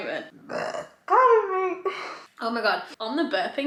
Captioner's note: burping quietly